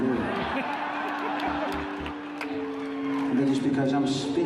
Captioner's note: audience laughs